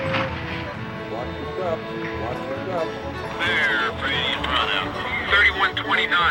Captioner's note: voiceover